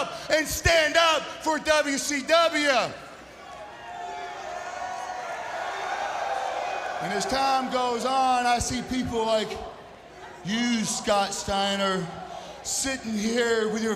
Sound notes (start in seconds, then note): 3.2 crowd cheering